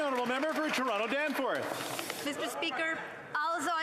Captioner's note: applause